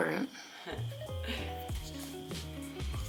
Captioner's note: laughing